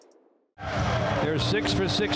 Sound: crowd cheering

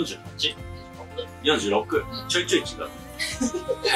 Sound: laughs

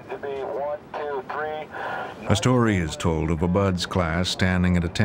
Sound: voiceover

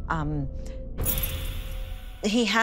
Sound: keys jingle

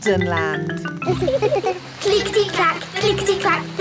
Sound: laughing

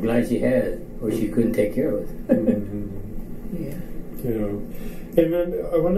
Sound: chuckles

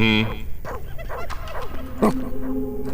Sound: weird distant gremlin giggle

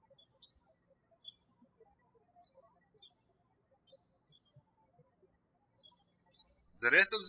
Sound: birds chirping

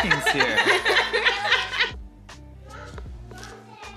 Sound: laughing

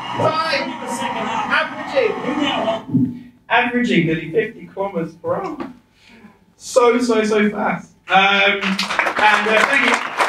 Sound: applause

